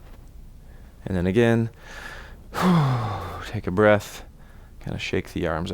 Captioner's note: exhales